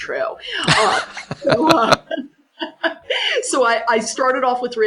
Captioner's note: laughs